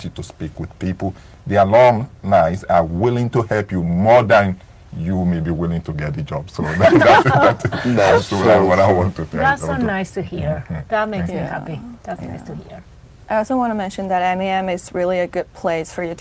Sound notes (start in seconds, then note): 6.6 laughing